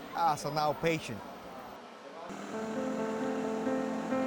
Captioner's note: speaks in Spanish; soft dramatic music